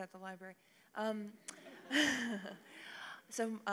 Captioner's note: laughter